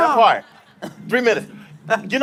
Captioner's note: laughing